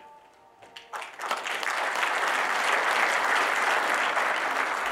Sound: audience applauding

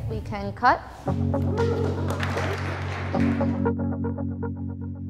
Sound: gentle music; interviewees clapping; gentle music

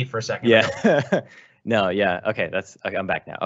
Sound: laughing

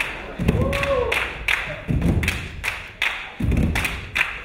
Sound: crowd cheering

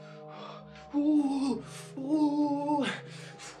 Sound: exclaiming

